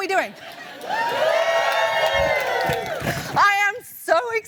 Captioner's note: applause